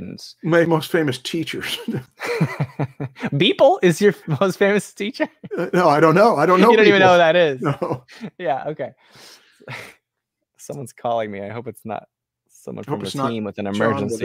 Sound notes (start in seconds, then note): 1.6 laughter; 5.2 laughs